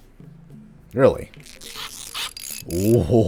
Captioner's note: tinkering noises; super-excited chuckling